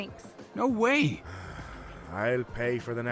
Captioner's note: sighs